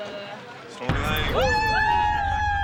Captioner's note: makes drumroll sound